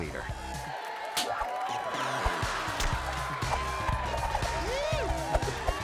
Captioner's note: audience cheering; groovy music